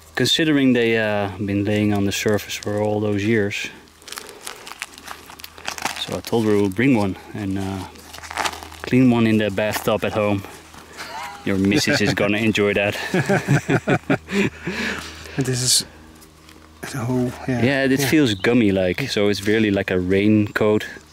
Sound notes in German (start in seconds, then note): 12.9 Lachen